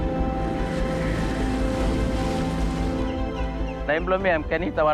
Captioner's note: natural sounds continue